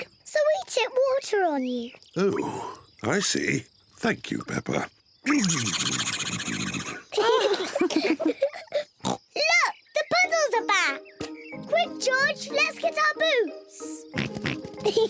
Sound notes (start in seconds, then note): 5.3 spluttering; 7.1 all laugh; 9.0 oinks